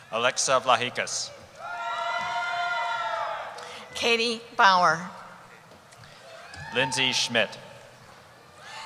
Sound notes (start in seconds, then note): 1.5 cheering